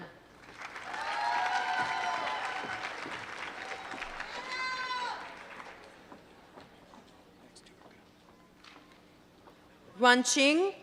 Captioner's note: applause